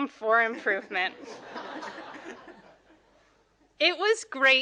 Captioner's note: audience laughing